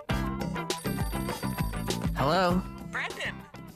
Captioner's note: phone rings